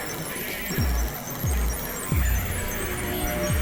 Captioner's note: erratic beeping